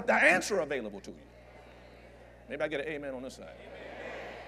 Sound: audience Agrees

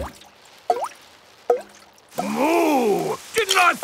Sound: water dripping

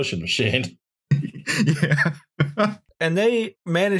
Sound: laughter

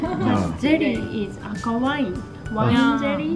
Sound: japanese that I cannot distinguish

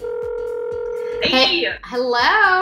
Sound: phone ringing

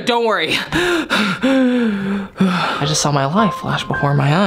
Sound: heavy breathing

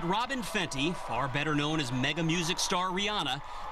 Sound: cheers and applause

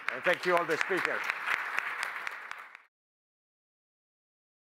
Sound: applause

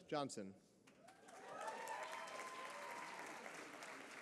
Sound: applause

